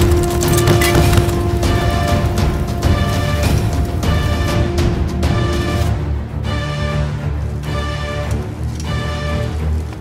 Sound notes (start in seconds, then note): none